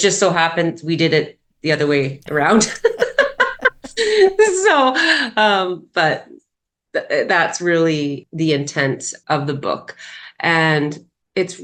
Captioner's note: laughs